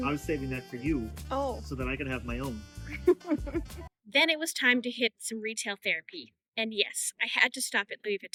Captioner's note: laughing